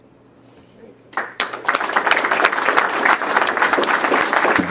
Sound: all clapping

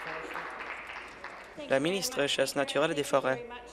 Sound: applause

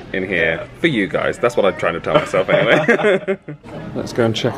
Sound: laughs

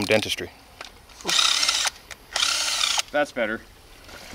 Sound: whirring; water trickling

